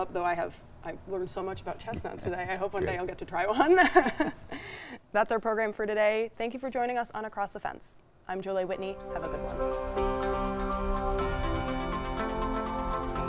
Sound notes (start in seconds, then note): 4.1 laughing; 10.4 upbeat music